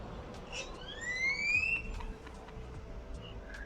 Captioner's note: bird chirping